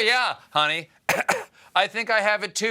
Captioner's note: faking coughs